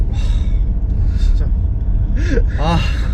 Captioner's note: can't help sighing